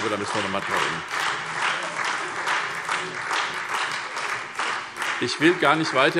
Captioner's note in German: Beifall SPD und Freie Demokraten